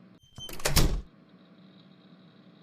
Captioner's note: door closes